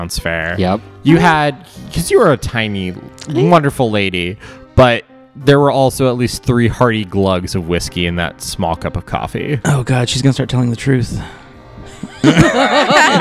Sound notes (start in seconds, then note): 11.9 laughter